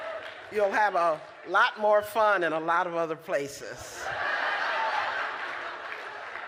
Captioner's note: laughter